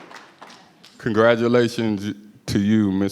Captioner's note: applause